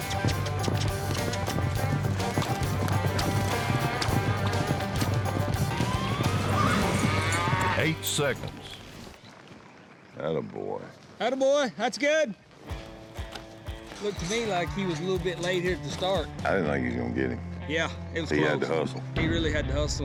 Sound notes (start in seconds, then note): 6.6 steer moos